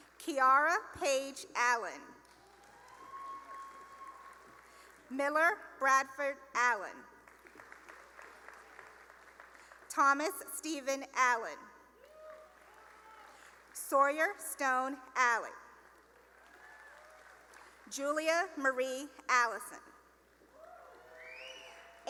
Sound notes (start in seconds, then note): 2.2 cheering and applause; 7.2 applause; 12.0 cheering and applause; 16.0 cheering and applause; 20.6 cheering